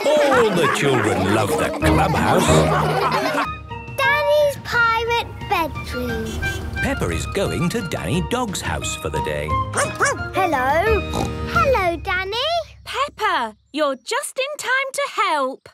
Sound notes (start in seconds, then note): 2.9 all laughing; 9.7 barking; 10.9 snorting